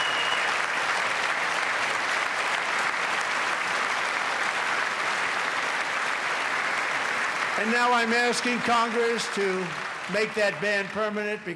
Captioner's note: applause